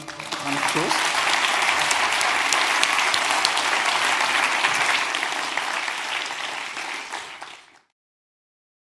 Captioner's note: applause